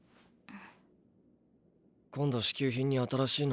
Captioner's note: MIKASA exhales